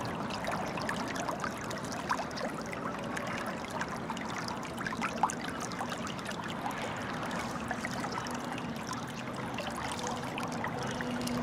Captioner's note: water sounds